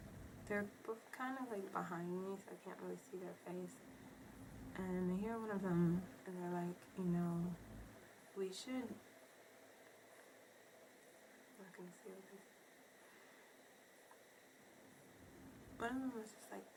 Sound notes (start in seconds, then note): 11.2 whispers